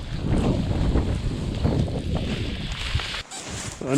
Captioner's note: windy